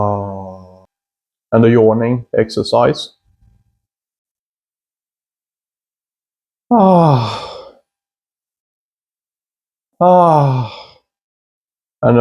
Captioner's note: yawns